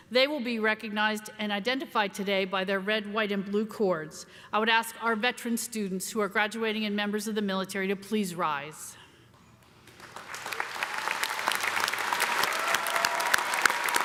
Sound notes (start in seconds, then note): 10.0 cheers and applause